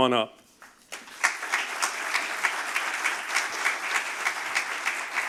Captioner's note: audience applauding